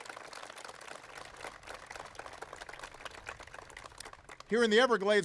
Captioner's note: applause